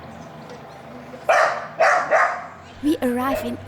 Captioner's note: dogs barking